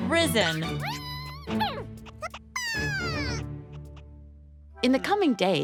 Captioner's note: happy caterpillar noises